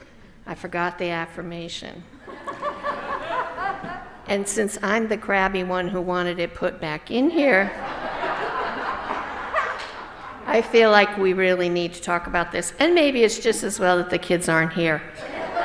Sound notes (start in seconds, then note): 2.2 laughter; 7.8 louder laughter; 15.1 laughter